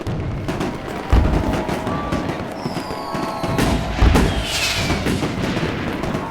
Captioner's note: crowd cheering; fireworks crackling